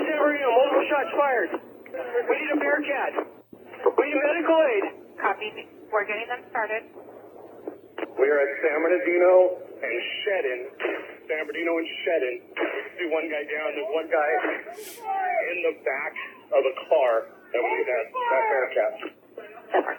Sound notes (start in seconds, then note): 12.6 gunshot bangs; 12.9 men yelling